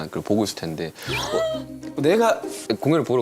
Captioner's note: sigh